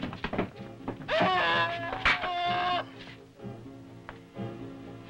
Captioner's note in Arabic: برونو يصرخ